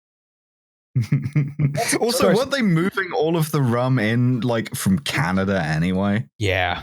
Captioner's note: chuckles